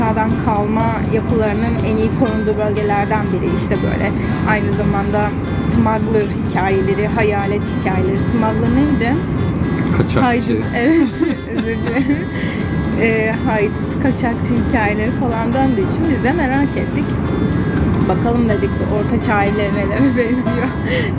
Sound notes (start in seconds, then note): 10.3 in Turkish